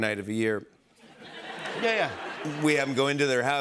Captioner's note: laughter